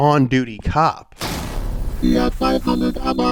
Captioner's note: crashing sound